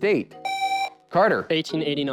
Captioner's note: buzzer